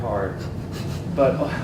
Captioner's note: laugh